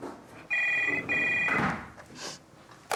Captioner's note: phone rings